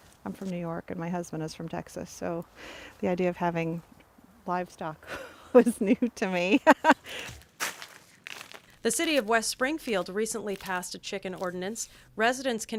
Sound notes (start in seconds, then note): 6.5 laugh